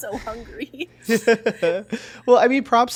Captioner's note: both laughing